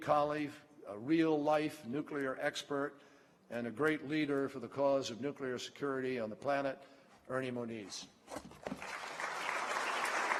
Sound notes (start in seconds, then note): 8.8 applause